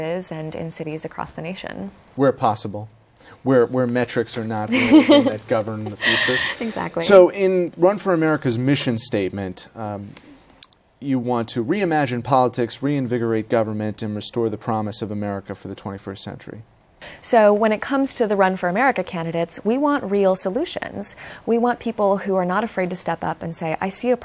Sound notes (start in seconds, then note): 4.7 laughs